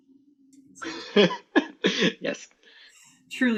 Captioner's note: laughter